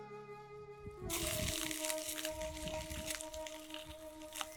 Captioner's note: fish sizzling